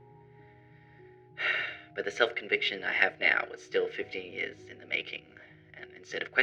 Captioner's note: sigh